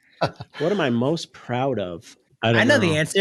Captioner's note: laughing